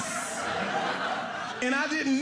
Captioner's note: audience laughing